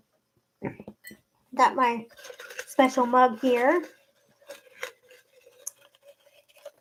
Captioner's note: rustles papers